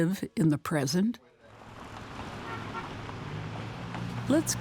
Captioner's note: people chatting